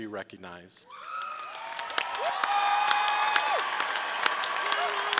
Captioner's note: audience cheering